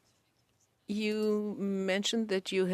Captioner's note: speaking French